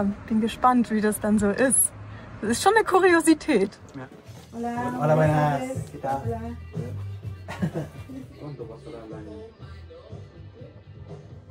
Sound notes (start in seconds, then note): 4.7 in Spanish